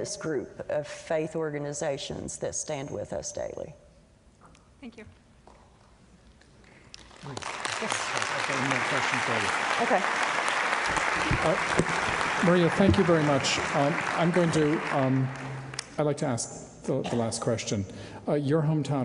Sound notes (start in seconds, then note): 9.3 applause